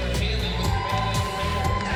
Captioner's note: cheering and applause